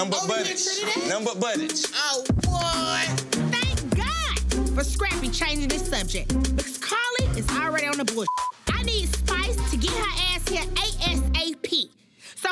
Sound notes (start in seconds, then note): 8.2 beep